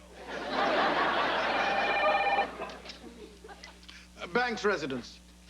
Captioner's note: telephone ri■gs